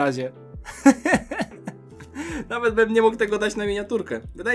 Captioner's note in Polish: śmiech